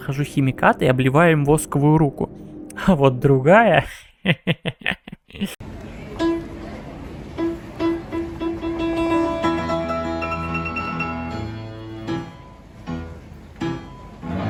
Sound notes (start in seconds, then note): 3.9 crazy laughter